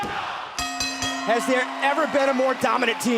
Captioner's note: bell ringing